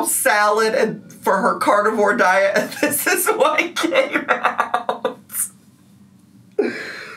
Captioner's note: laughs